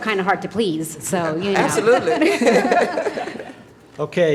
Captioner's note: laughter